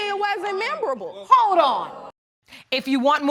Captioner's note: audience jeering